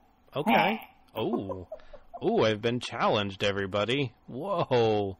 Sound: laughs

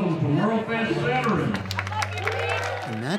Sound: cheering and applause

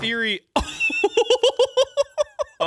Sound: laughing

